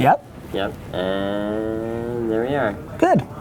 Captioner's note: voiceover